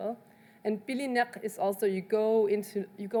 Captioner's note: speaks in foreign language